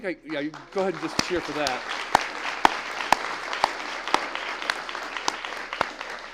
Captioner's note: applause